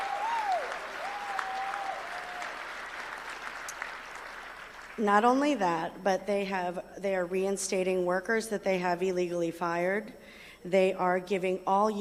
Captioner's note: applause